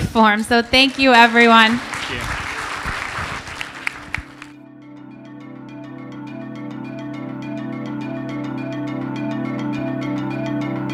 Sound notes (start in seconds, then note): 2.4 applause